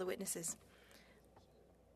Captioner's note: speaking French